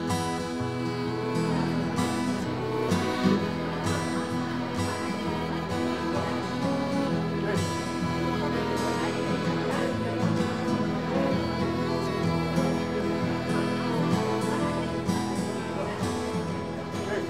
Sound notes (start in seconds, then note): 1.5 people talking; 1.5 soothing music; 12.0 people talking; 12.0 soothing music